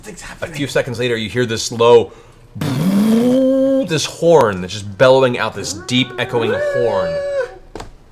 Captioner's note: horn sound